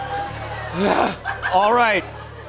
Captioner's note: groans